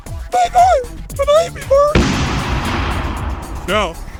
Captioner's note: boom